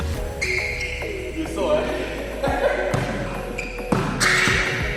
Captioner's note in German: lacht